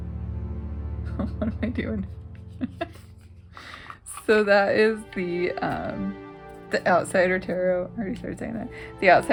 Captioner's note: laugh